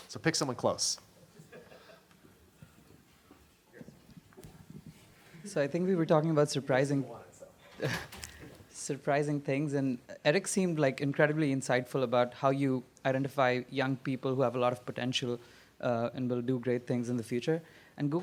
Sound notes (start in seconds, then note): 1.3 laughter; 5.6 voiceover; 7.3 man speaks off mic; 8.7 voiceover